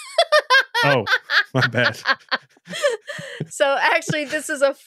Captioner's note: laughs